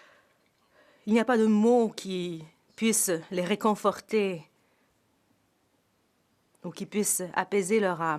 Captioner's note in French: voix de l'interprète